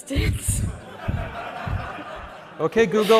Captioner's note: laughter